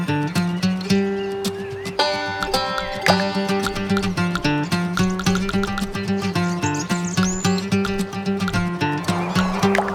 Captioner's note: typing